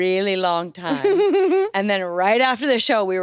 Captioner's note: chuckles